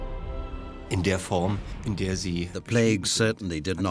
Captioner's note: speaking German